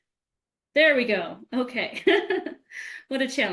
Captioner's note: laughs